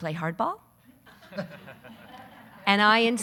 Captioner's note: audience laughing